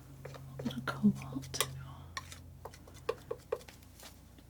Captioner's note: tapping